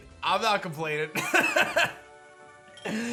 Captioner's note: laughs